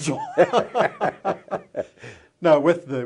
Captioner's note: laughter